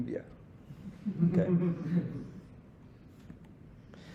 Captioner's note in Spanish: risas